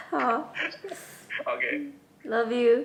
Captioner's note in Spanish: absorbe saliva